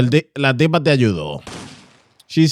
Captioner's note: speaking In Foreign Language